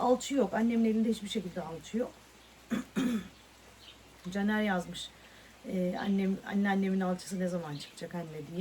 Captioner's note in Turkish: boğazını temizler